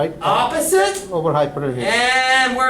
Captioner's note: voiceover